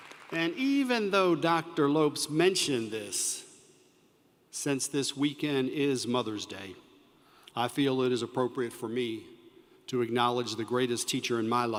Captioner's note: applause